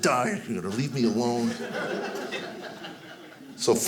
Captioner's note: audience laughing